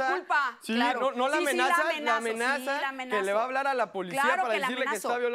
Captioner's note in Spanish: Hablan al unísono